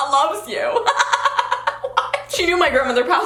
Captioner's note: laughs